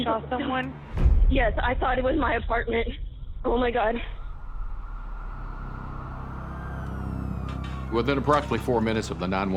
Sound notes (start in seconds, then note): 4.1 sirens